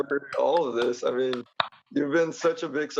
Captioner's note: applauding